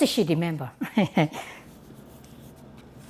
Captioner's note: laughs